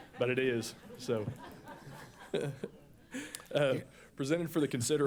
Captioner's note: laughter